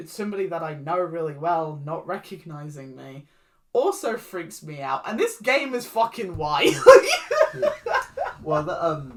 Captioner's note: laughs